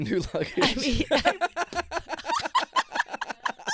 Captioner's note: laughing